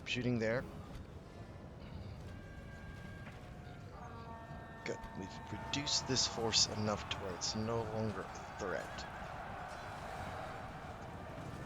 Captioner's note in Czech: Potlesk